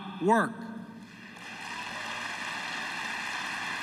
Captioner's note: applause